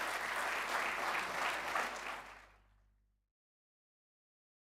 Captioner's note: audience applauding